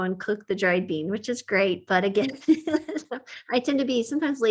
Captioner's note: laughs